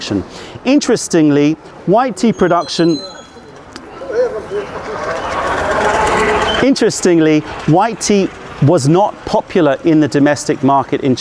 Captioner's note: passing vehicle